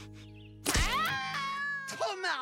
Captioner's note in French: créature qui hurle